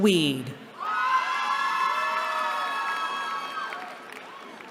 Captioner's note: cheering